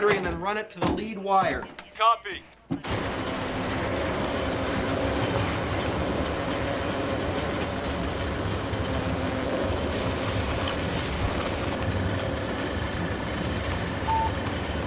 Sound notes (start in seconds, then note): 2.8 wheels rattling; 14.0 bomb beeps